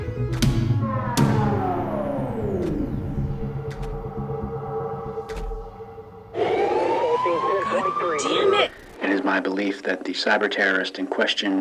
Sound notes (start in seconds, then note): 2.1 siren dies out